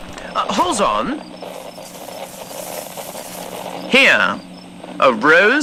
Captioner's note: bush rustling fx